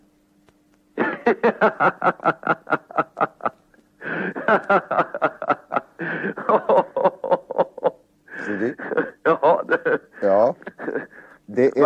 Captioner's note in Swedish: Skratt